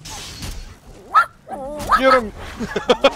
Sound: dog barking; laughs; dog barking

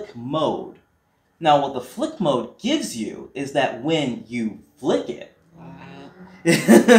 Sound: smol scream

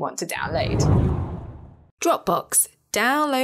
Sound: air whooshes

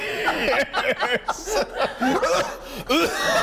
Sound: laughter

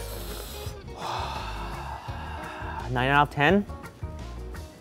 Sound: sighs

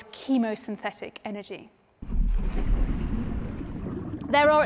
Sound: water gurgling

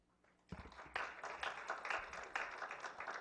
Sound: clapping

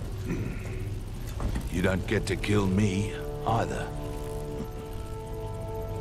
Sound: chuckle

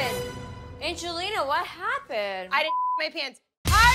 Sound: beep

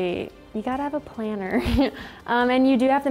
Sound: giggling

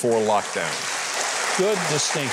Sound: audience applauding

